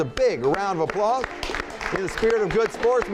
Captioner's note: clapping